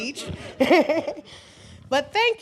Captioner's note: laughs